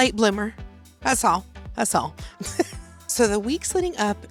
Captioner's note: laughs